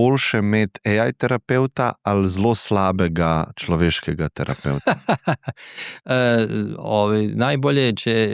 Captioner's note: laughs